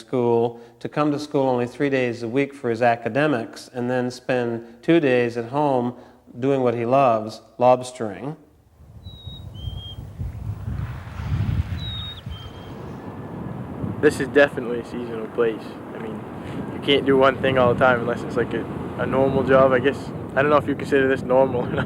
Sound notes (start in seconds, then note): 8.9 bird chirping; 10.3 water rippling